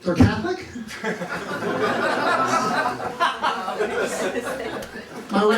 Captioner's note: laughter